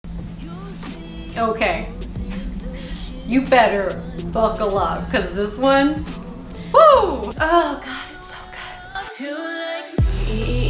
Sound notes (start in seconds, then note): 3.7 woo